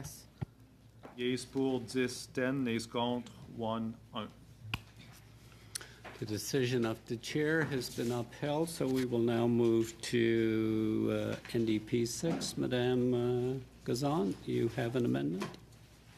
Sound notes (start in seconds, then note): 6.7 speaking French